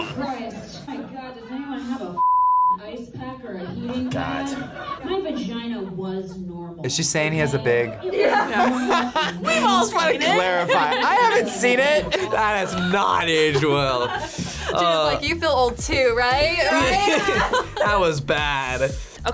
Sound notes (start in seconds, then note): 8.8 laughs; 14.0 group laughs; 16.4 laughs